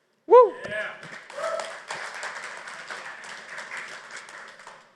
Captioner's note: applause